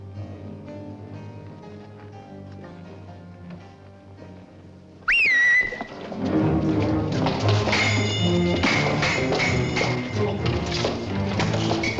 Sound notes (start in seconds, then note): 5.0 a whistle signal